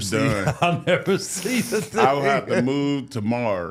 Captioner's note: laughs